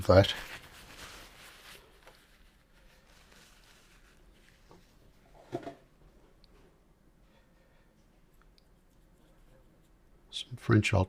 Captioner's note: silence